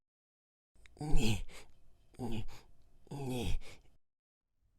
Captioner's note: panting